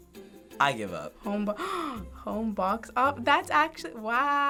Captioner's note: gasps